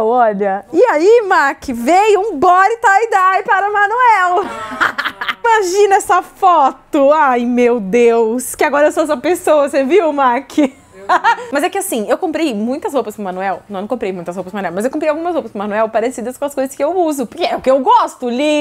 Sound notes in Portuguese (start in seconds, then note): 4.4 risos; 10.7 risos